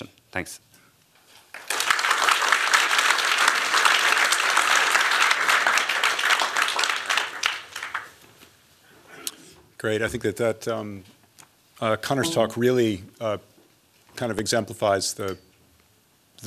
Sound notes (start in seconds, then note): 1.4 applause